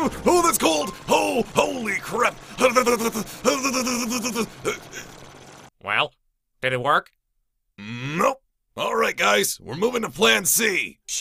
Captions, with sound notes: Oh, that's cold! Oh, holy crap! *shivering* *extended shivering* Well did it work? Nope! Alright, guys, we're moving to plan C.